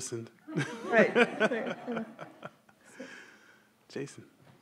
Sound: everyone laughs

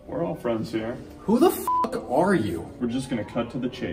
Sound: beep

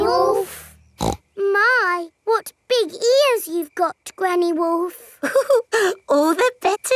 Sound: snorts; chuckles

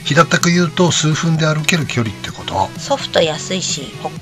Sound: laughs

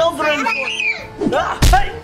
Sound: screams; thumps

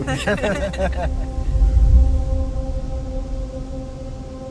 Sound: laugh

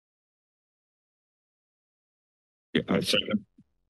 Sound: silence

